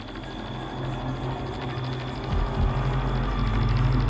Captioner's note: ominous music; heartbeat thumps